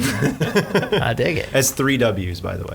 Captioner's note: laughing